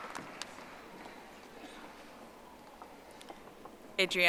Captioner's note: audience applauding